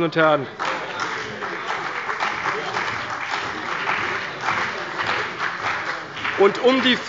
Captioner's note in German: Beifall bei der CDU und dem BÜNDNIS 90/DIE GRÜNEN